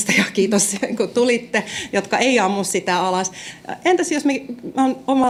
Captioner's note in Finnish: naurua